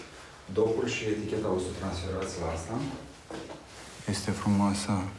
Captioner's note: speaking foreign language